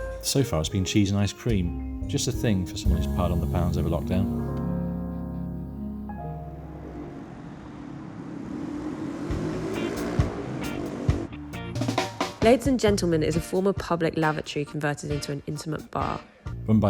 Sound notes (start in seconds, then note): 7.0 traffic hums; 9.6 upbeat music